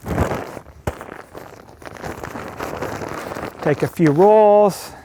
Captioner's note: bag rustling